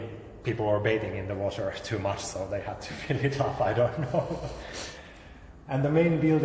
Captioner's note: laughs